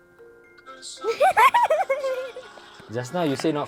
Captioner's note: laughs